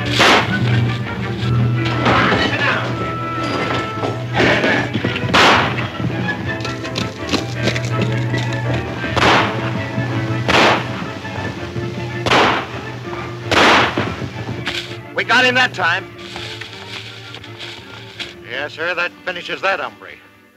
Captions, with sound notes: (dramatic music) - Get back, sit down! (gun bangs) - We got him that time! - Yes sir, that finishes that hombre!